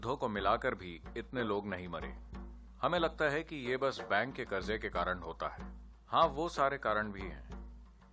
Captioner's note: speaks in Gujarati – not transcribed